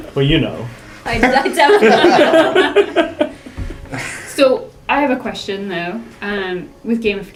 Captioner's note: laugh